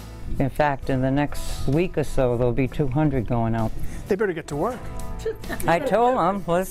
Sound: laughter

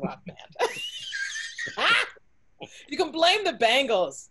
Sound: both laughing

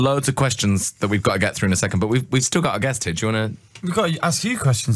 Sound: none

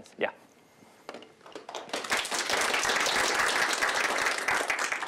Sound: applause

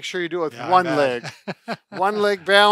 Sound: laughs

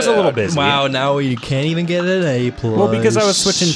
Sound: sarcastically

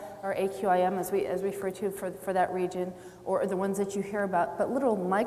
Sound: none

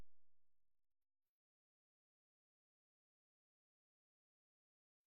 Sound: silence

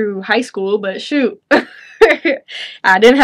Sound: chuckles

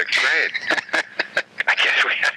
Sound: laughing

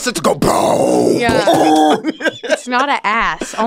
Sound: deep bop sound

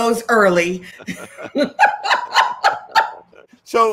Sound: both laughing

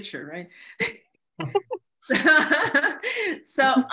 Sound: laughing

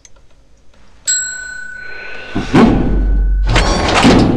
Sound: bell ringing

